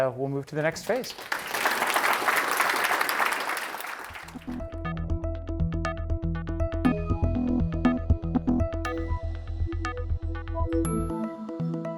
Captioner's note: applause